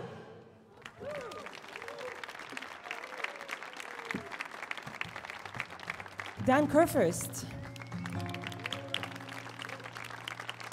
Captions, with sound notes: (audience cheering) (audience clapping) Dan Kurfist (audience clapping)